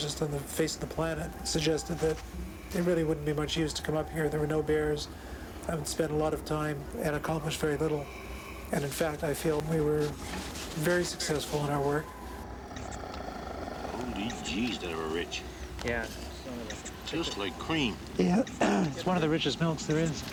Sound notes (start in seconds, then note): 12.4 squirting